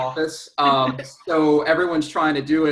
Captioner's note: laughs